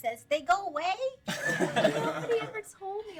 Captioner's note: laughing